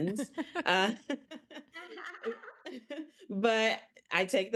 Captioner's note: all laughing